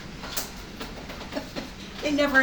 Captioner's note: chuckles